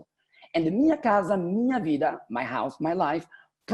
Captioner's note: speaking portuguese